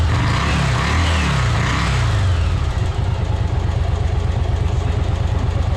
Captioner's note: engine sound